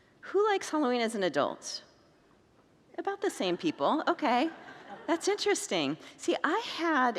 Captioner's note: congregants laugh